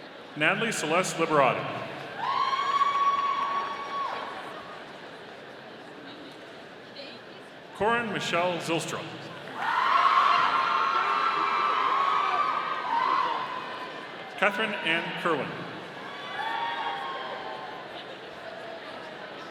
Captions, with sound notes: Natalie Celeste Liberati. (audience cheering) Corryn Michele Zylstra. (audience cheering) Katherine Ann Kirwan. (audience cheering)